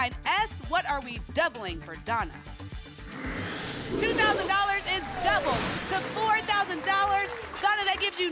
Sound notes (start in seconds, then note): 5.8 applause